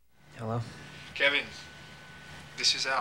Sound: on phone

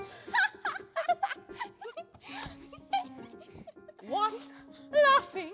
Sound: Hansel and Gretel giggling

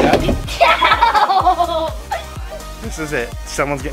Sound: laughing

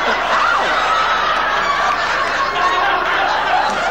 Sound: audience laughing

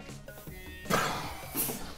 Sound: hissing; laughing

